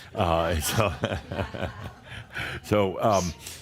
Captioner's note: Adamus chuckles